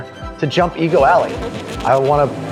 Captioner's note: car engine roaring